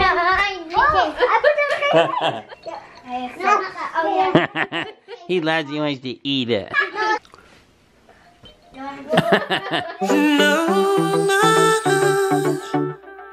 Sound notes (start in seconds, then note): 3.3 toy jingling; 4.1 laughing; 8.5 toy jingling; 9.1 laughing; 9.9 upbeat music